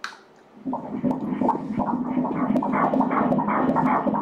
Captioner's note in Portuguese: batidas do coração